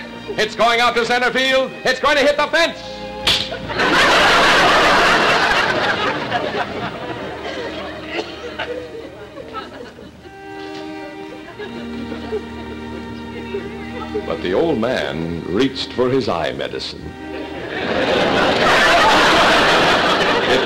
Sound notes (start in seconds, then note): 3.3 crack; 3.4 audience laughter; 17.3 audience laughter